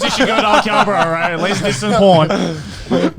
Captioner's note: all laughing